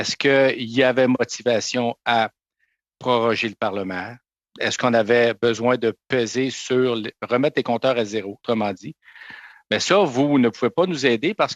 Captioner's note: speaking French